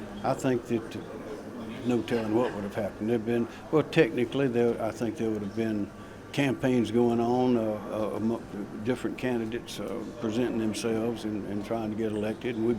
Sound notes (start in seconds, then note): none